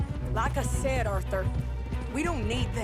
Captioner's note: none